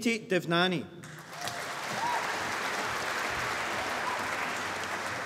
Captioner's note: applause